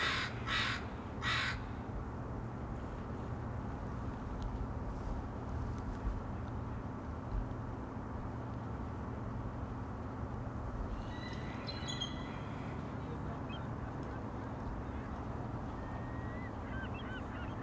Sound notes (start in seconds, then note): 0.7 seagulls